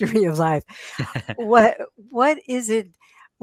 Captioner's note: chuckles